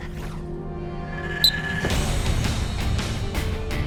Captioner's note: whistle blown